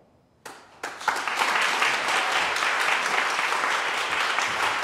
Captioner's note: audience applauds